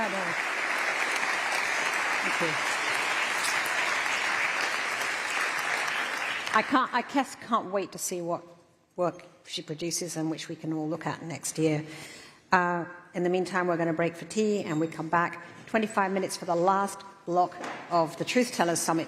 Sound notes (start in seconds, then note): 0.0 applause